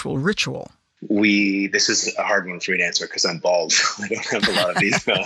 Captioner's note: chuckles